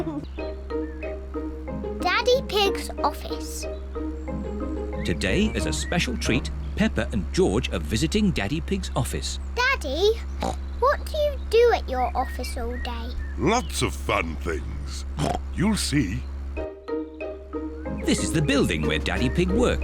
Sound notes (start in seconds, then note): 14.6 oinks